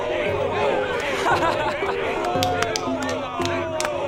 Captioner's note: laughing; clapping